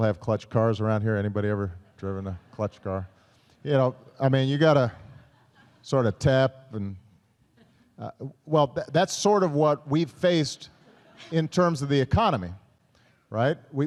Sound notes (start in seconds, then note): 4.8 laughter